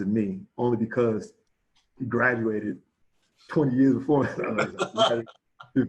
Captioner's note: chuckles